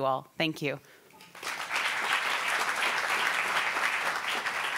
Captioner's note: applauding